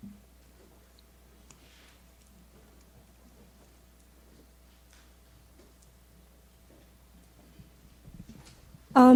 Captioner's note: silence